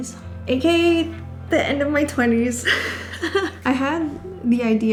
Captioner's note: chuckling